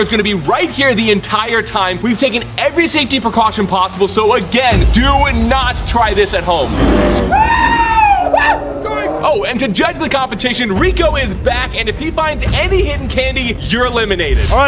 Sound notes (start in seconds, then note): 6.6 bear roars; 6.8 screaming